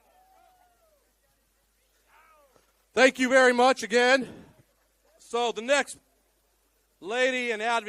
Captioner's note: cheering